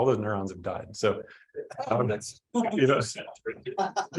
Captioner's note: group laughing